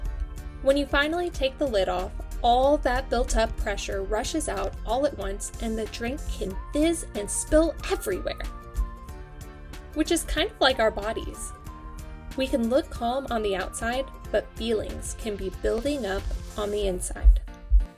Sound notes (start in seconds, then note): none